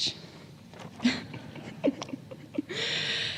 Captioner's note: laughter